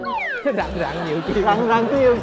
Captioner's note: laughing